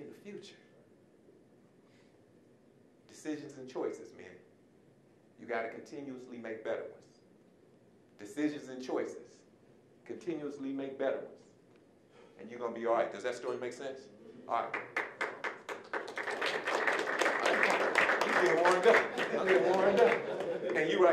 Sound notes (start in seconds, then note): 14.6 applause; 18.3 audience laughing